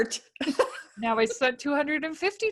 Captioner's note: laughing